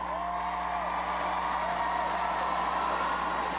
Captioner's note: crowd cheers